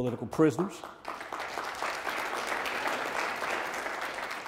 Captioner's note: audience applauds